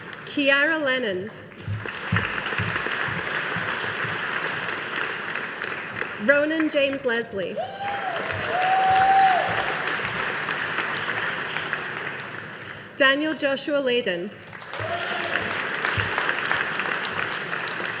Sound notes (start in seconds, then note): 1.6 audience applauding; 14.5 audience applauding